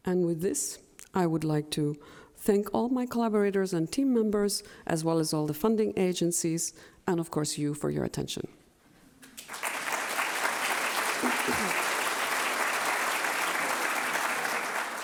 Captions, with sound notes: And with this, I would like to thank all my collaborators and team members, as well as all the funding agencies, and, of course, you for your attention. (applause)